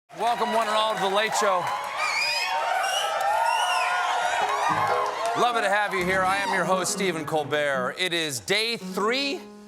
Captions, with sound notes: WELCOME, WELCOME ONE AND ALL TO "THE LATE SHOW." ( CHEERS ) LOVELY TO HAVE YOU HERE. I AM YOUR HOST, STEPHEN COLBERT. IT IS DAY THREE?